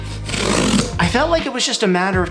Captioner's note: box cutting